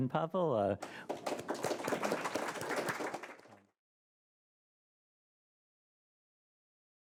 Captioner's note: applause